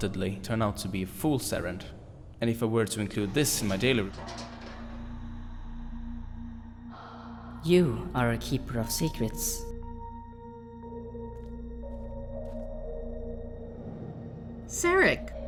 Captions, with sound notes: turn out to be fool's errand. And if I were to include this in my daily re— [Clanking noise] You are a keeper of secrets! Zarek!